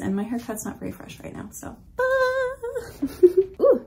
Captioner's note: sing-songy